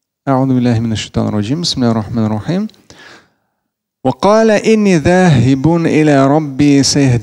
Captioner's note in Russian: Говорит на арабском